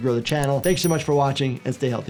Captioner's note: bell ringing